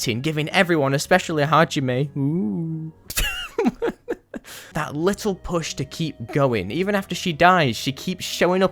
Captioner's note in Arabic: يضحك